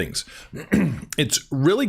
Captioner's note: clears throat